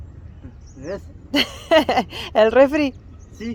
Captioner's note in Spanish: risas